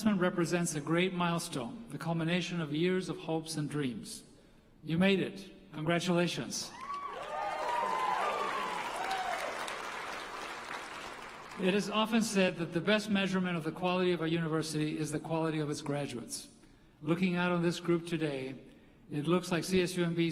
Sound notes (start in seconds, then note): 11.3 applause